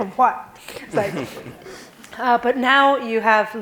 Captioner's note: laughing